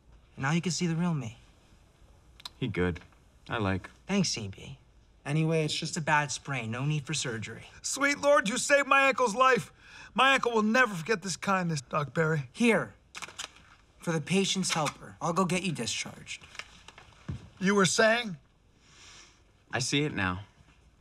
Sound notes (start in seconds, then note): 18.8 inhales deeply